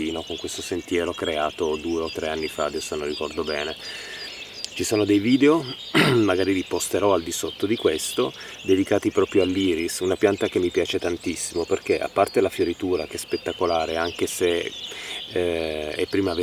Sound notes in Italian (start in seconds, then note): 5.9 schiarire la voce